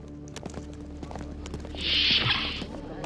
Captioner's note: door opening